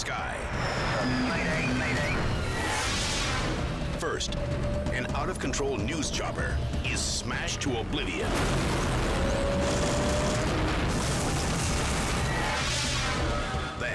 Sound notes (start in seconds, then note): 8.9 helicopter crashes